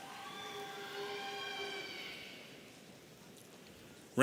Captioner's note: audience cheering